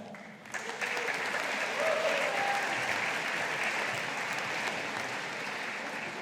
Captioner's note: audience applauding